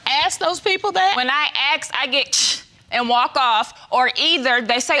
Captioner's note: scoffs